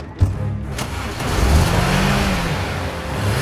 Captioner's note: car engine starting; car rumbling